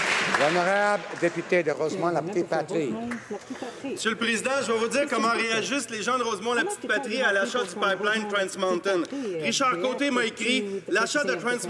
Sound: some applause

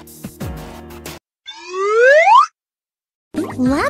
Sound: slide whistle

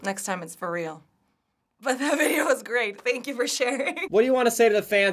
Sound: cracking up

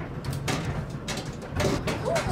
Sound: washing machine running

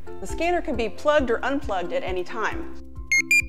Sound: beep, beep, beep from scanner

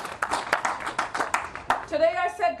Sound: applause

